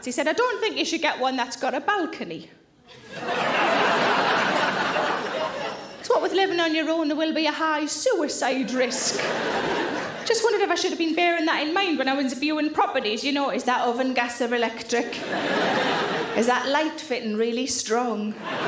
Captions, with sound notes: he said, "I don't think you should get one that's got a balcony, (audience laughing) 'cause what with living on your own, there will be a high suicide risk." just wondered if I should have been bearing that in mind when I was viewing properties, you know, is that oven gas or electric? (audience laughing) Is that light fitting really strong?